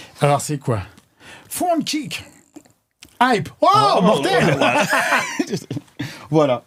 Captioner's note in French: rires